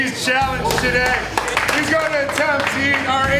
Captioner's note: restaurant patrons applaud